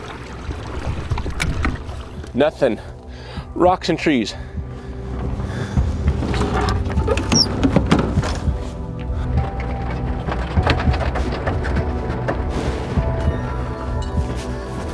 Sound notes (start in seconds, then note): 0.2 suspenseful music continues; 0.2 water lapping gently; 4.8 suspenseful music continues; 6.8 trailer squeaks and rattles; 9.8 suspenseful music continues; 9.8 vehicle rattling